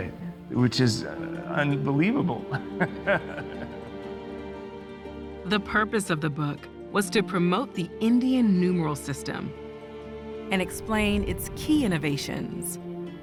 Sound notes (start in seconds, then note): 2.4 laughs